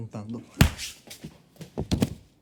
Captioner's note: punching